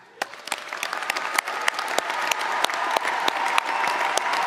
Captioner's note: applause